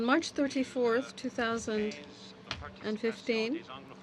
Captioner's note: speaking French